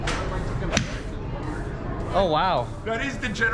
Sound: golf club whacks

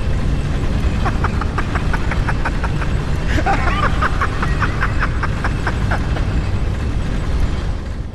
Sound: Patches laughing

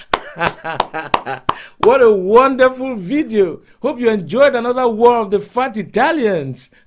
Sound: laughing and clapping; laughing

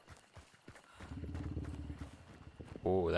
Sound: low roar

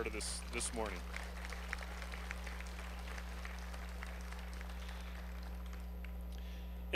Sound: applause

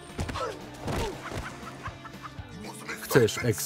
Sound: laughing

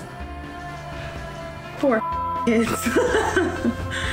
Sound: beep; laughs

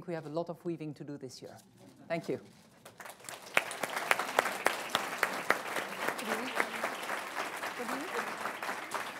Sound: applause

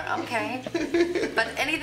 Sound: laughing

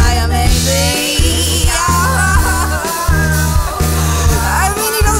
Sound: laughs

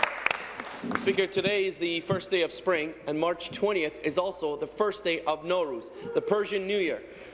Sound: applause

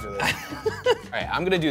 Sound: laughs

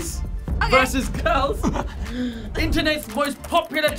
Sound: gasps

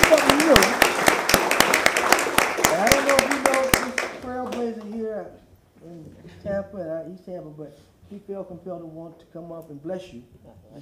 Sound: applause

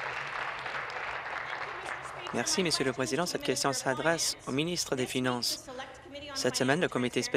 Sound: applause

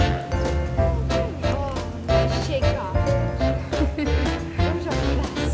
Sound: laughter

